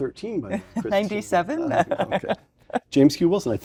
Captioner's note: laugh